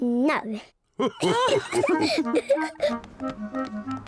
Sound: all laugh

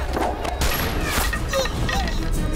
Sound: gun shot

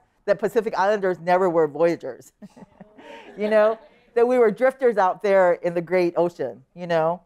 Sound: laughter

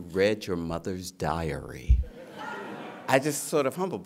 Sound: laughter

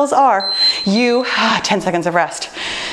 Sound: timer beeps

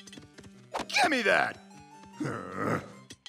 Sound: grunts

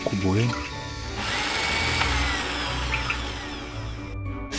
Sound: electric drill sound

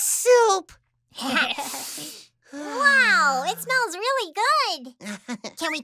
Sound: sniffing

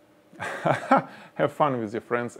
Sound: chuckling

